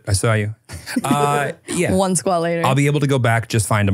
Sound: laughs

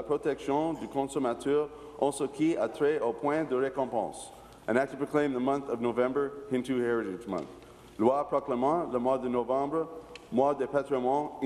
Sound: speaking in french

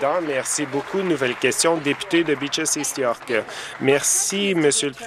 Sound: applause

